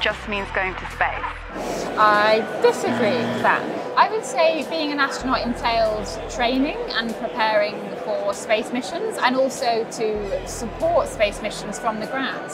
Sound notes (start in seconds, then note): 0.0 voice over radio static; 2.8 buzzer sound